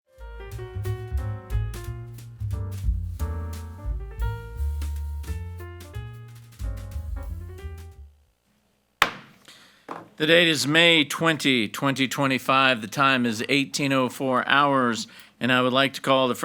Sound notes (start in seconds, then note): 0.1 cheerful jazz music; 9.0 gavel claps